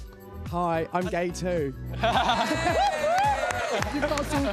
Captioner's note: laughs; cheering